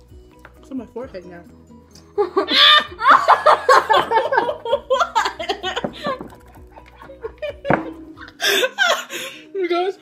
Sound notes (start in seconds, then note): 2.5 screams; 7.8 laughing